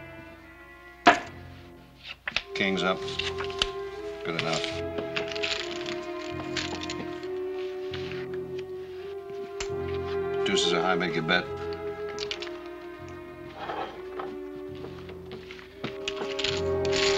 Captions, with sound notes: [ thud ] King's up. Good enough. Deuces are high. Make your bet.